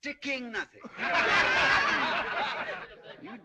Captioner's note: جمهور يضحك